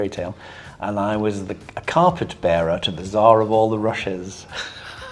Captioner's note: laughing